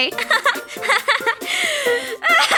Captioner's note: laughing